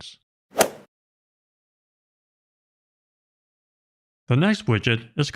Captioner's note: golf ball hit sound effect